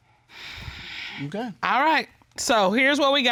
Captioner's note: sighs